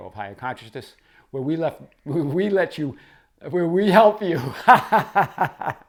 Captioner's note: chuckles